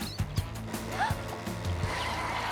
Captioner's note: chittering; gasps; tires screech